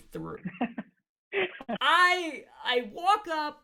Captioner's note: laughs